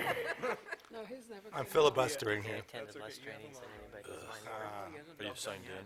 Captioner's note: laughter